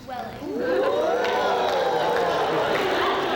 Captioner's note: women ooh